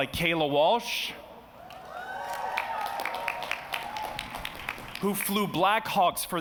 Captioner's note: cheers and applause